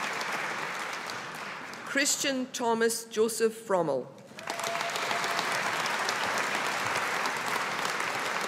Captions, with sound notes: Kristian Thomas Josef Frommel. (AUDIENCE APPLAUDING)